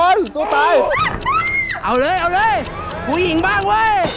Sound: screams

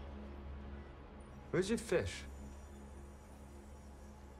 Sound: none

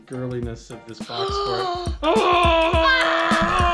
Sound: gasps; screaming

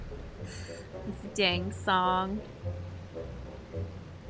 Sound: frustrated inhale

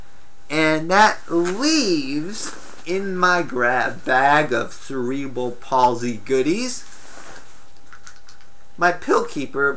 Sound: rustling sound inside bag

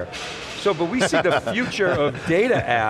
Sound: laughing

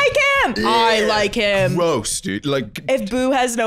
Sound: deep voice; gagging

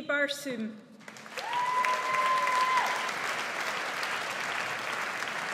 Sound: audience applauds

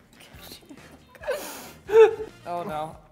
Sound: laughs

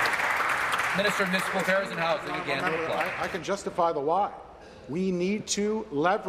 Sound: applause

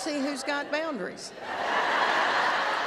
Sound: laughter

